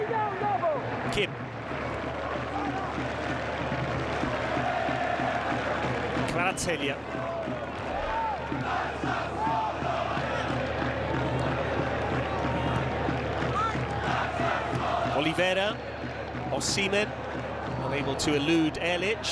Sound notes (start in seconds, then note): 7.3 crowd noise; 7.8 cheers and applause